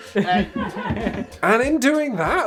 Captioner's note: giggles